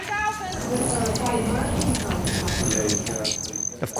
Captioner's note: birds chirping